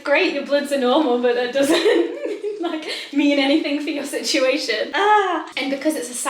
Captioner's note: laughs